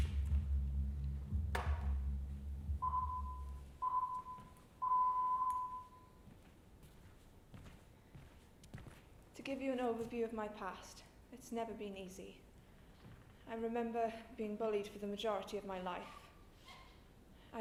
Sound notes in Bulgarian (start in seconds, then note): 0.8 Звуков сигнал